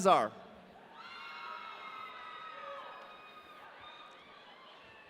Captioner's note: audience cheering